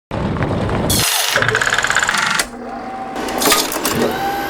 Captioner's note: mechanical and electrical noises